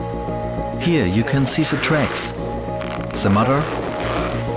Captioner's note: in German